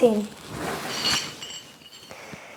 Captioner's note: medals Clanking